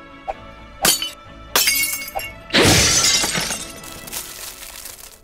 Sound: glass shattering

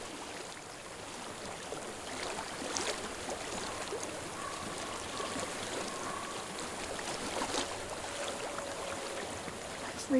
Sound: water flowing

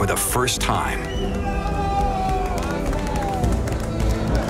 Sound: cheering

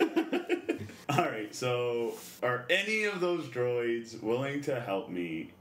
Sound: laughs

